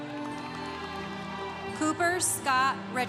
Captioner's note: congregation cheering